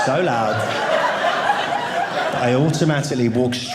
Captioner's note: audience laughing